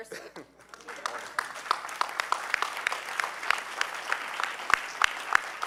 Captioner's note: audience applauding